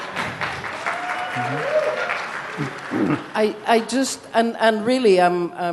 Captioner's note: audience applause